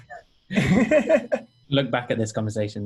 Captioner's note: laughing